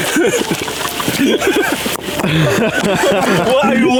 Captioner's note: laughing